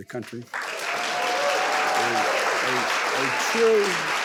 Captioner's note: audience applauding